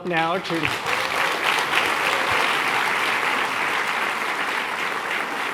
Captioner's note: applause